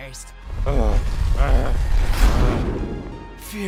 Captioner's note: huffing and puffing